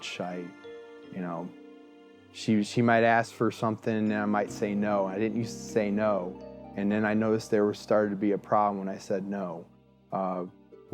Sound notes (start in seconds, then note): none